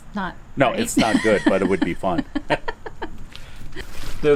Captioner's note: laughing - clearly we're joining here